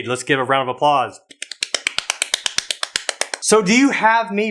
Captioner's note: clapping